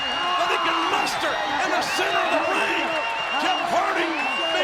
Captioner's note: audience cheering